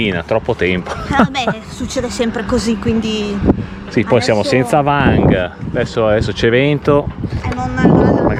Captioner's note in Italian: risate